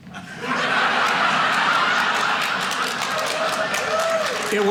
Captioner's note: audience laughing